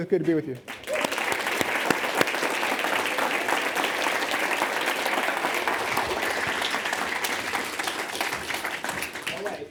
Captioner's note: audience applauding